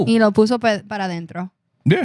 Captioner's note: speaking In Foreign Language